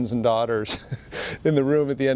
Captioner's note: chuckles